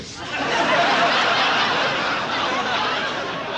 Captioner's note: audience laughs